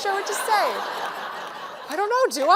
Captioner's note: laughter